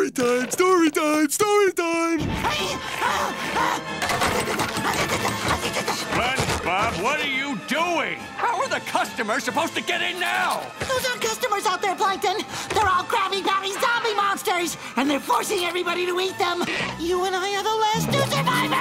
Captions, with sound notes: Oh, boy! Storytime, story time, story time! [panting] SpongeBob, what are you doing? How are the customers supposed to get in now? Those aren't customers out there, Plankton. They're all Krabby Patty zombie monsters! And they're forcing everybody to eat them.